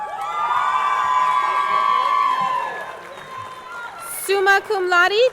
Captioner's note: audience cheering; audience clapping